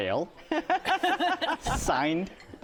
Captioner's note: laughter